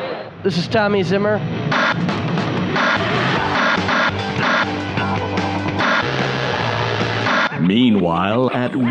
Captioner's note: television static glitch